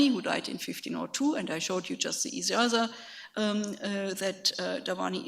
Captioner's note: speaks in a foreign language